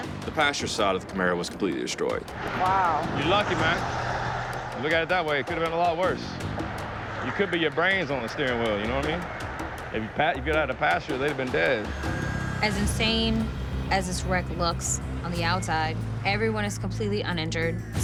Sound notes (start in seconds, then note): none